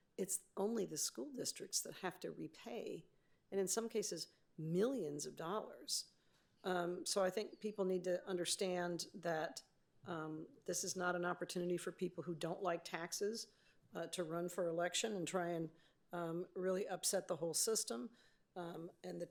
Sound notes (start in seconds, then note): none